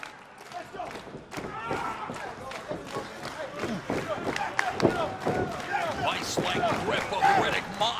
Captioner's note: crowd cheering